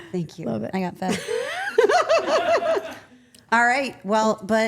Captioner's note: group laughing